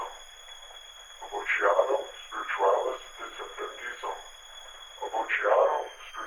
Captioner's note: Chemock speaks Latin